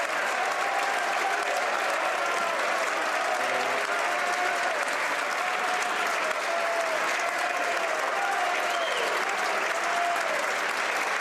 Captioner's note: some Applause